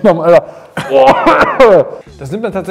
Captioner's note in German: hustend